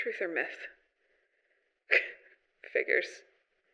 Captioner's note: laughs